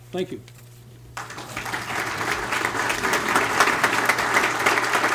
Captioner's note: applause